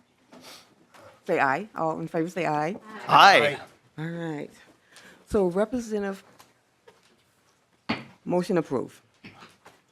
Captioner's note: chorus of ayes